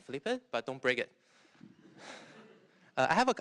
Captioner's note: laughter